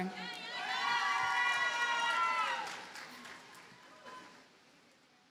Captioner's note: audience cheers and applauds